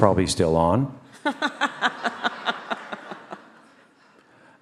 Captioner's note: all laugh